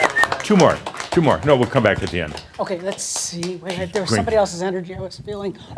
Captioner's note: some applause and whistles